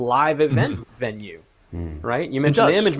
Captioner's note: men hum in agreement